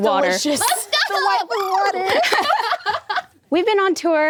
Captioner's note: all laughing